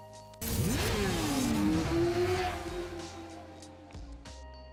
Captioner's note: engines revving